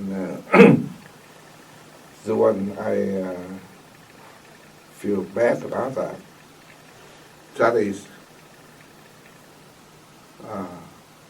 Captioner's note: coughs